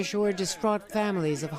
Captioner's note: crowd chanting